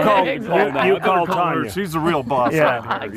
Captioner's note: laughter